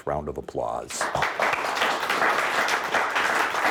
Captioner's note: applauding